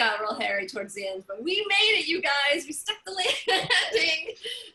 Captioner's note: laughter